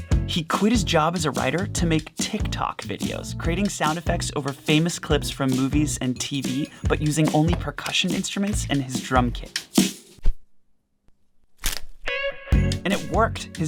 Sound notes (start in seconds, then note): 11.6 fabric crackling; 12.5 chill music